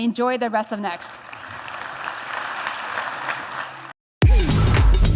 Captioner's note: applause